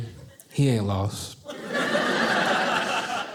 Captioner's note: audience laughing